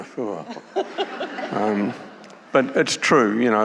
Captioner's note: audience laughing